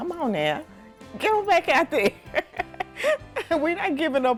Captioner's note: laughs